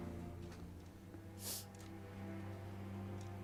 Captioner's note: sniffs